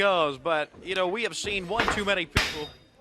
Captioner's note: crowd chatter